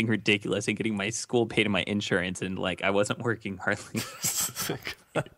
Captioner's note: laughs